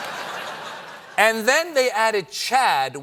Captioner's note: laughter